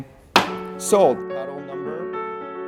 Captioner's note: gavel bangs; pensive piano music